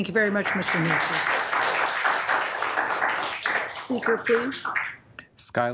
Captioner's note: audience claps